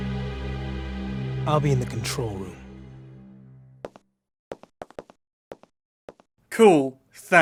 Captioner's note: footsteps